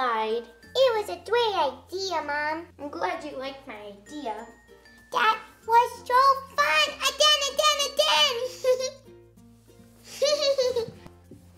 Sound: baby giggles

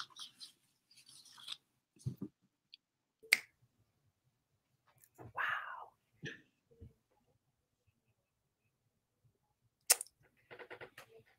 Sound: whispers

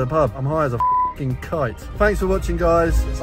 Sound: beep

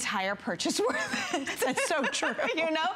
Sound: laughter

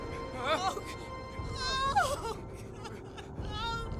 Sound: squeals

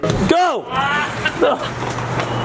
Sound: laughs

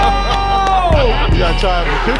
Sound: crowd applauds

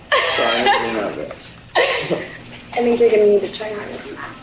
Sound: laughs

